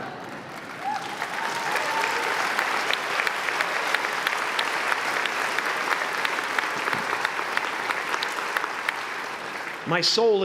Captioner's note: applause